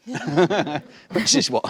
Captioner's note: laughing